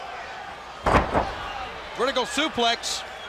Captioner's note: crowd chatter